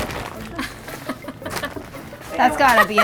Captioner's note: laughing